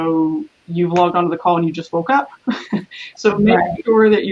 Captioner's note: laughs